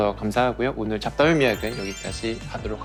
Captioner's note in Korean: 반짝이는 효과음